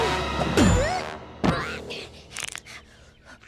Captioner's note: panting